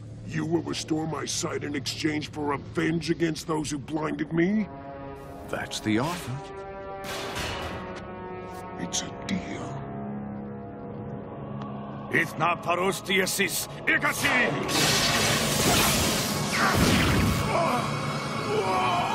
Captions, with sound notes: You will restore my sight in exchange for revenge against those who blinded me? That's the offer. It's a deal. (Speaking foreign language) (Grunting)